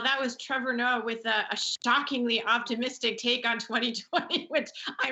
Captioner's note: laughs